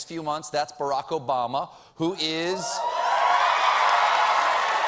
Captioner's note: cheers and applause